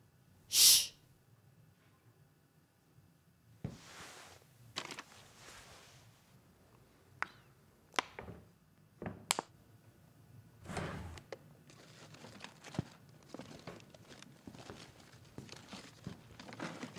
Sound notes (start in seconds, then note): 10.6 freezer opening; 11.5 ice scraping